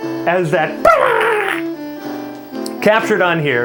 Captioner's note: makes modem sound